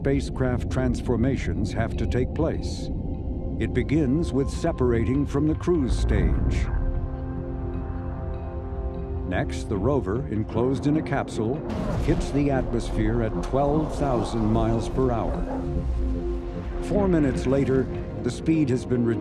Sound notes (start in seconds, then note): 7.1 tension music; 16.1 roaring rocket